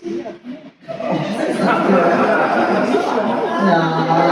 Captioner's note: laughter